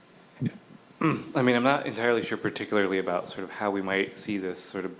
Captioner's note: cough